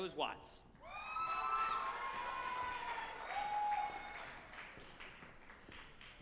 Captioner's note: group applauding and cheering